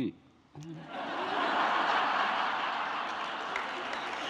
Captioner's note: audience laughing